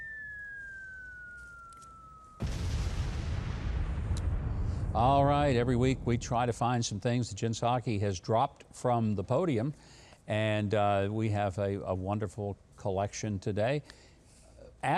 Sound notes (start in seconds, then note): 0.0 bomb whistling; 2.3 bomb exploded